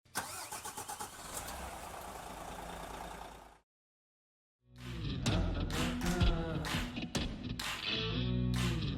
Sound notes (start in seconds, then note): 0.0 engine starting; 4.7 upbeat music